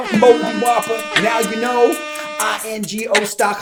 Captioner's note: air horns blare